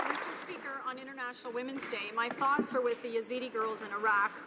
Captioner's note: applause